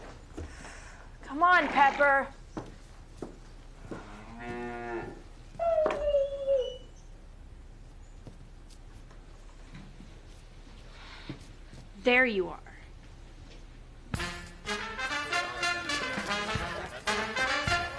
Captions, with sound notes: Come on, Pepper. (cow mooing) (dog whimpering) There you are. (upbeat swing music)